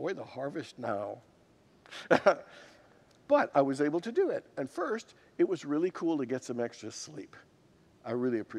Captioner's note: laughs